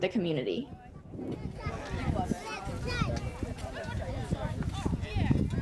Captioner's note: indistinct conversation